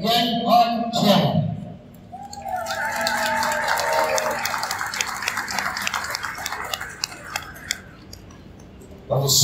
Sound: cheers and applause from the crowd

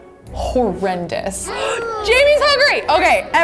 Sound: gasps

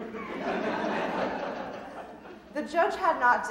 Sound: audience laughing

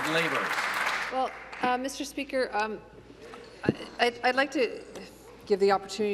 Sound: applause

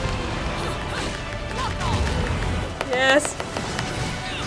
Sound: tapping

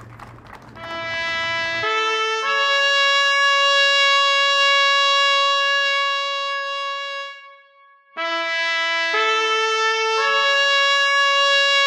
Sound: applause; taps

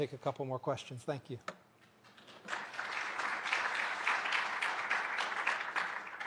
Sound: applause

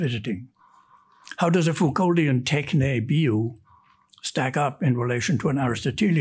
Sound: speaks in Greek

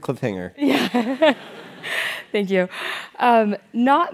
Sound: laugh

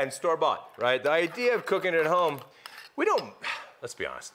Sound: sighs

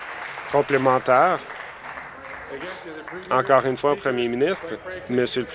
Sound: applause

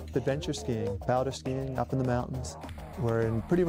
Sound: voiceover

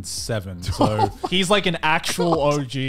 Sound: laughs

